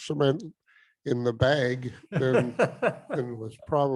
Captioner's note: laughs